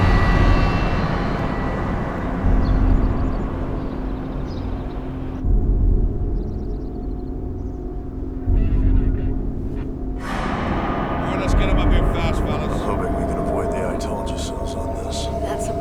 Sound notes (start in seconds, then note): 0.1 dramatic music; 9.0 man On Police Radio